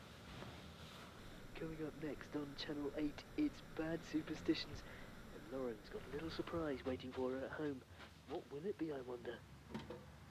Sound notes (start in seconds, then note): none